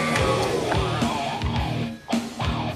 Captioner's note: turns off vacuum